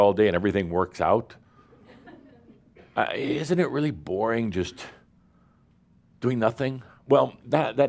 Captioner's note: a few chuckles